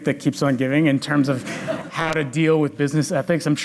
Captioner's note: audience laughs